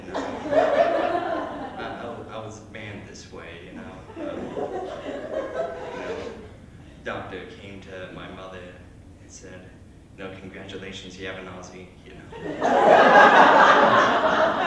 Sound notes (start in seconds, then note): 0.0 laughter; 4.0 laughter; 12.4 hardy Laughter